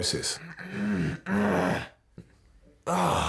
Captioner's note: makes annoyed grunt